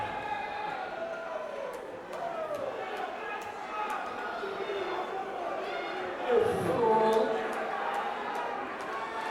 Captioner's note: crowd chatter